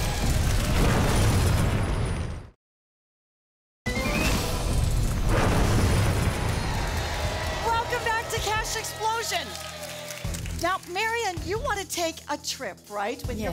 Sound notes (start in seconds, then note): 0.0 audience applause; 6.1 audience applause